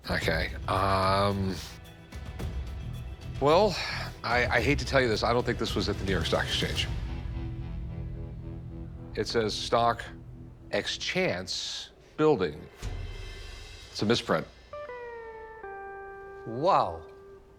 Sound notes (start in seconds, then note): none